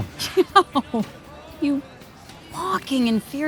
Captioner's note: Wendy laughs